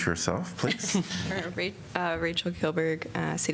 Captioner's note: laughter